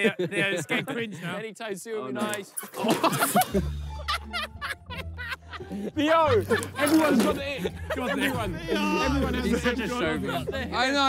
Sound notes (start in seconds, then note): 2.8 players laugh; 4.4 whimsical instrumental music